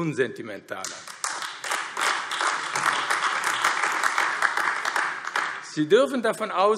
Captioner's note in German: Beifall AfD